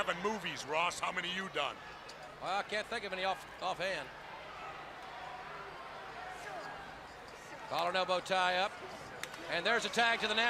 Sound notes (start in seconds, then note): 5.3 crowd chatter